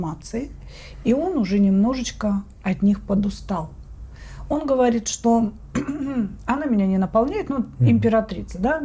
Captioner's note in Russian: откашливается